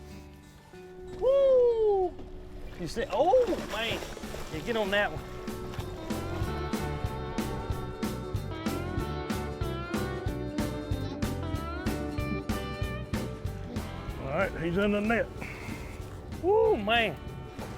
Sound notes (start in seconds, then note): 4.9 upbeat music; 6.4 water splashes